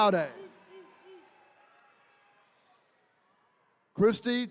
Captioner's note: attendees cheering